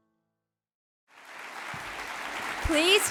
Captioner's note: audience applauds